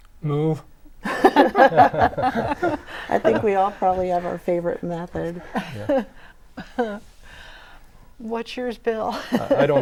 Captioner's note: laughing